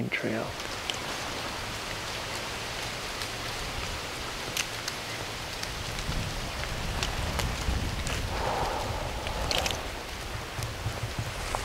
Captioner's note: leaves blowing in the wind